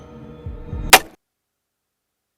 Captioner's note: sound of an axe hitting